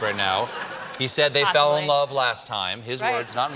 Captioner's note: laughter